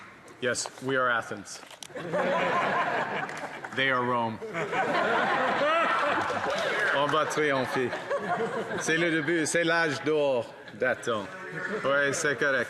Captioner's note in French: applaudissements